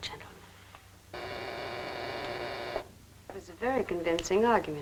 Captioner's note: intercom buzzes